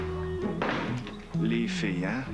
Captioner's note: Claquement de porte